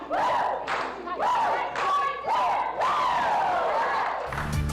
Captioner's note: clapping and cheering